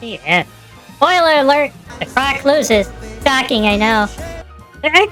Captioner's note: deadpan